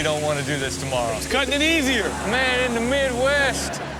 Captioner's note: audience laughs